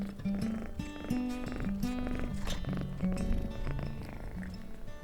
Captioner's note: gato ronroneando